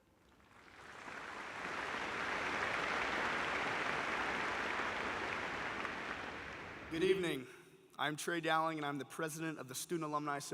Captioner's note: applause